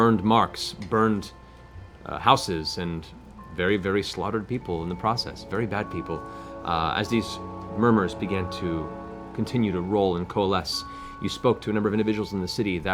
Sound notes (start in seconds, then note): none